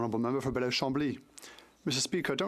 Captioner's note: speaking French